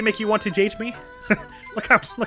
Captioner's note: laughs